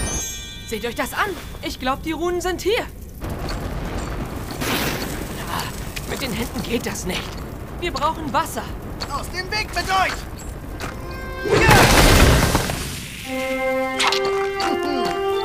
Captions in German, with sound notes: Seht euch das an. Ich glaub, sie sind hier. Mit den Händen geht das nicht. Wir brauchen Wasser. Aus dem Weg mit euch. (Ächzen) (Triumphierende Musik)